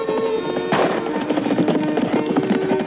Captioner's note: gunshot